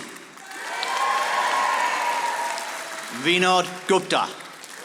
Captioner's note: audience applauding